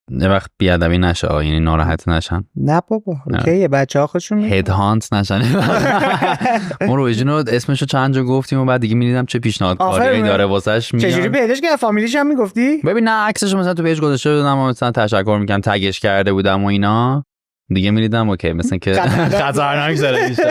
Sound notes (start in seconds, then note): 5.4 laughs